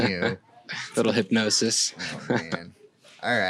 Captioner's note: laughing